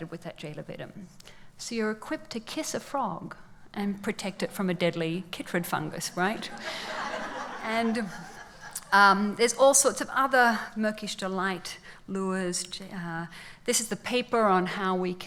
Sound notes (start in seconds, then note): 6.4 laughs